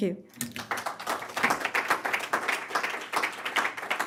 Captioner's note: loud applause